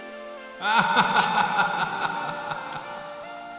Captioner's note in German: lacht hämisch